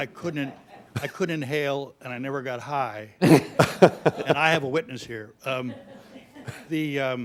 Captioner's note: laughter; laughter